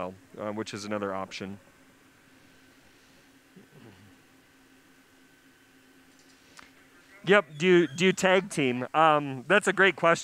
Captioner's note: pause